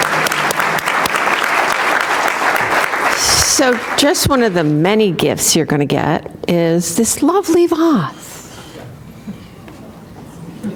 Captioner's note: applause